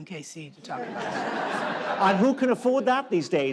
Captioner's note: audience laughs